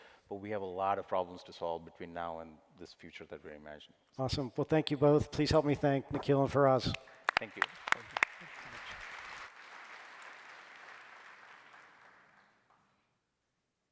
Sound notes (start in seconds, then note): 9.0 applause